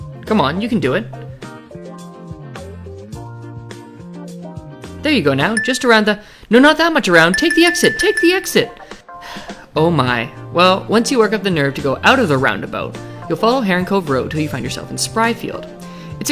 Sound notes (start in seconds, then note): 9.2 sigh